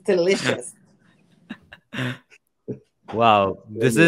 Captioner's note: laughs